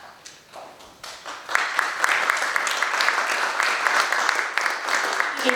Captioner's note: audience applauds